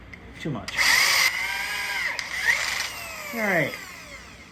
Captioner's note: drill whirring